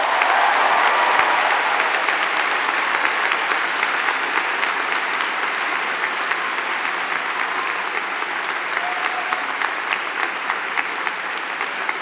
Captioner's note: applause